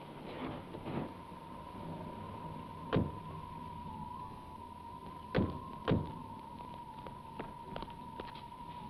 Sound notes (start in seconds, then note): 1.1 eerie whistling music; 3.0 doors click